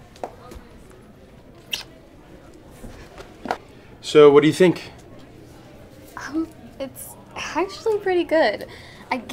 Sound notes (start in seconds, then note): 1.6 smooching